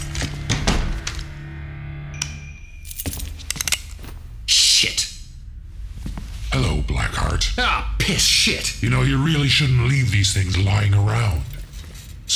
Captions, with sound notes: (Sound of gun being cocked) Shit. Hello Black Heart. Ahh piss, shit. You really shouldn’t leave these things laying around.